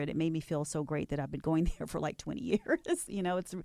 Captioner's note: laughs